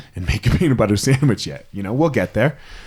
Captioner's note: laughing